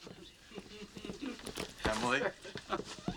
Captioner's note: giggle